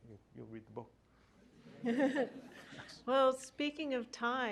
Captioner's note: laughter